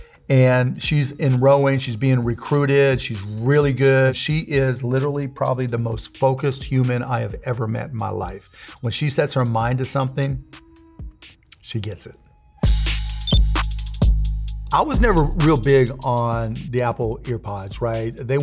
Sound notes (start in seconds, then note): 12.6 upbeat music; 13.1 beeping